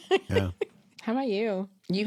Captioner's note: chuckles